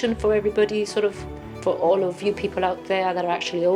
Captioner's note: none